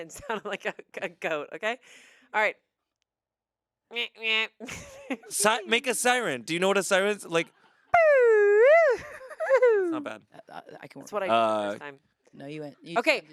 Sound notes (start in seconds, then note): 3.4 imitates honking; 8.0 imitates siren